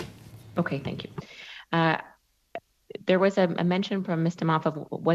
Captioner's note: speaking French